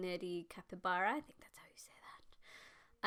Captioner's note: whispers